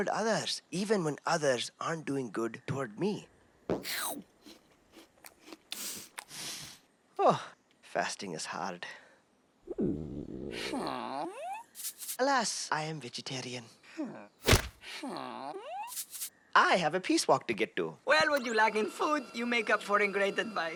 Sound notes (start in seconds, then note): 4.9 chewing loudly; 5.3 sniffing; 9.6 stomach growling